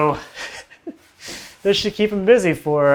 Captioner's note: laughs